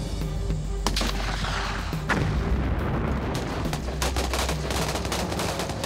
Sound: explosions and gun fires

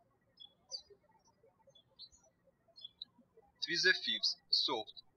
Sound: birds chirping

